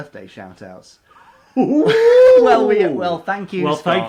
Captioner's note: chuckles